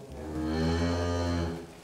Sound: cow moos

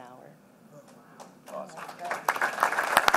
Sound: applause

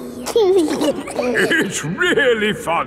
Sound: giggling

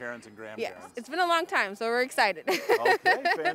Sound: laughing

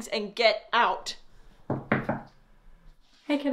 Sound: knocking at door

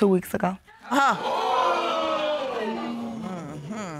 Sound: audience exclaims

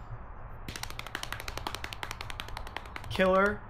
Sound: knee slapping

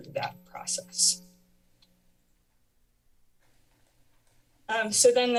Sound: pause

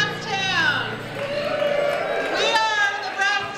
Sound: cheering

